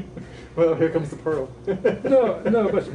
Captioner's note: laughs